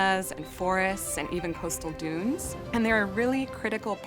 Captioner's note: ocean waves crashing